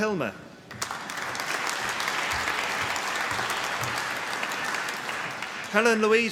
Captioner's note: applause